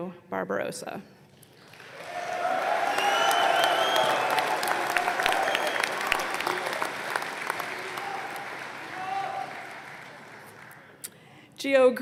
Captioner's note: applause